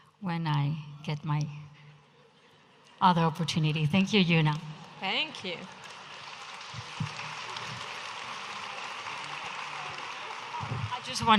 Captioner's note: audience applauding